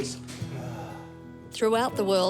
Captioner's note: sighs